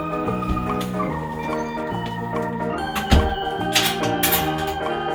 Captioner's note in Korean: 대충 문닫는 소리